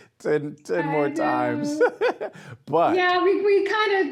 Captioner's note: laughing